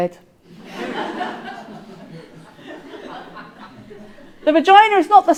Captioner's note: audience laughing